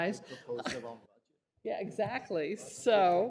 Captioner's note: laughter